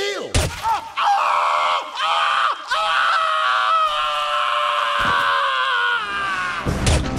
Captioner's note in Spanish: hombre grita